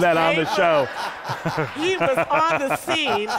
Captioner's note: laughter